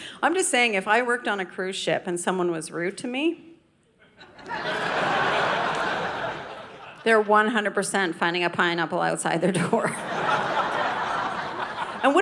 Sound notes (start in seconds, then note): 4.1 audience laughing; 9.9 audience laughing